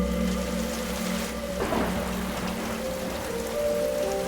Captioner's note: rain falling; thunder cracking; tense music